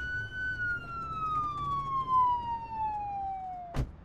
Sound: siren blaring

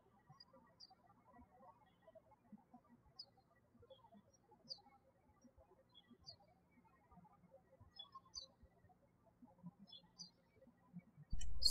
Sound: birds chirping

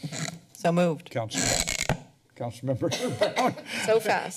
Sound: laughs; coughs

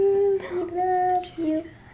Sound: gasping

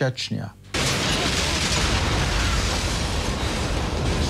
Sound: explosions

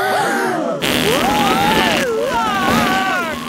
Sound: both screaming; crowd gasps; screaming

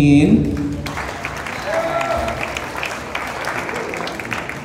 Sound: cheers and Applause

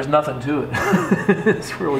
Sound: laughing

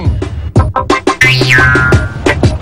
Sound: boing

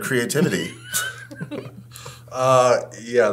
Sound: both laughing

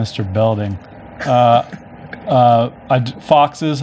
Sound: laughs

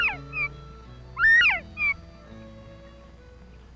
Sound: quail sounds

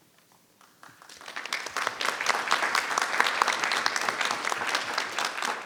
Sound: people applauding

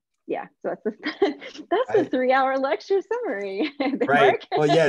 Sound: chuckles

